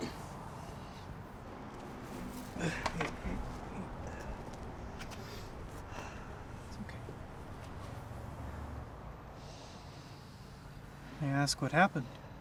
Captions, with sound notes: - Hey, hey, hey. (Mark grunts) It's okay. May I ask what happened?